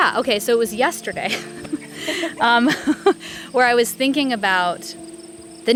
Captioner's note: laughs